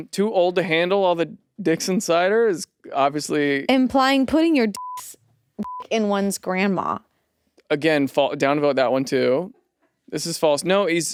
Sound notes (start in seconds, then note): 5.6 beep